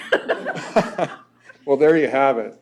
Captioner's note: laughter